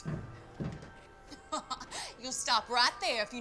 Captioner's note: laughs